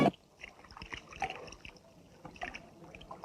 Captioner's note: water splashing